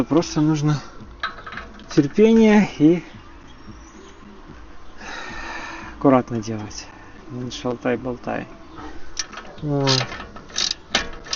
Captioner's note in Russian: вздыхает